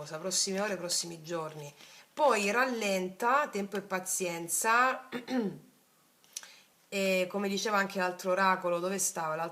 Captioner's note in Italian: schiarire la voce